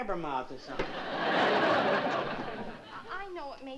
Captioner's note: laughter